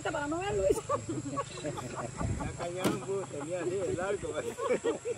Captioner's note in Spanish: risas